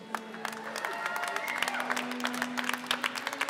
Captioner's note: applause